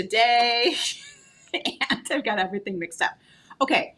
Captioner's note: laughing